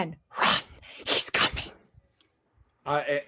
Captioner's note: creepy voice